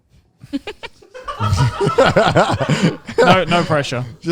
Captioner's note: all laughing